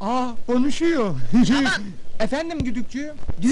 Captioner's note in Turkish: telsi̇zden ses geli̇r